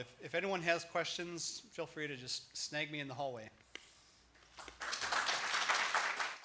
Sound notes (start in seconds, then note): 4.5 applause